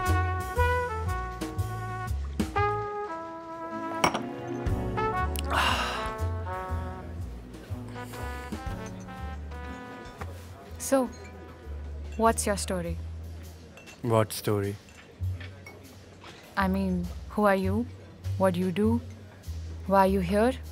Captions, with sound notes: (Clinking of the glass) So, what's your story? What story? I mean, who are you? What do you do? Why are you here?